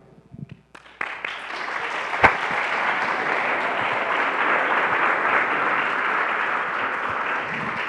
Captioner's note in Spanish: Aplausos